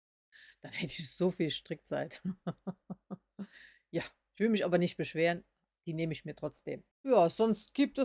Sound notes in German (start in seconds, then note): 2.2 gelächter